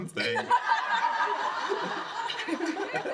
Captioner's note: laughter